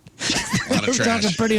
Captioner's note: laughing